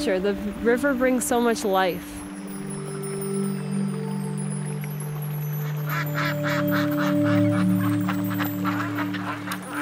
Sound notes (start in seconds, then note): 5.6 ducks honking